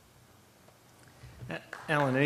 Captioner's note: applause